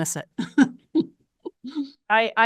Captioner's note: chuckles